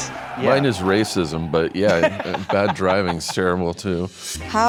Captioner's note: freddie stroma laughing